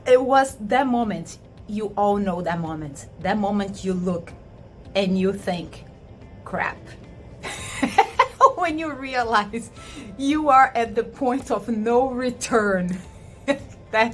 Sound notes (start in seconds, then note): 7.4 chuckles